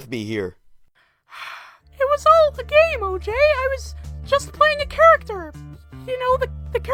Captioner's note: sigh